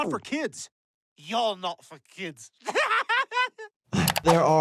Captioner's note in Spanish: risas